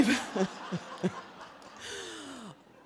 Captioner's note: laughing